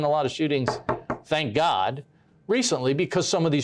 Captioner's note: knocks on table